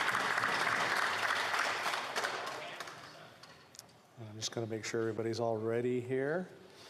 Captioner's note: applause